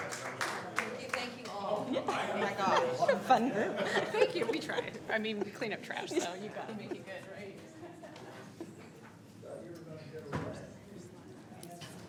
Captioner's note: applause